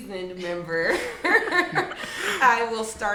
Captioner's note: laughs